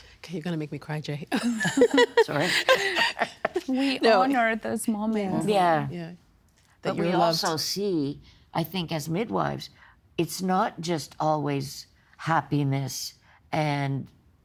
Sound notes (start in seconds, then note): 1.3 laughing